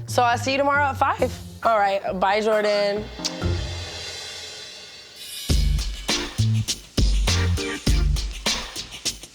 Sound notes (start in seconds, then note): 3.2 air kisses; 5.2 upbeat music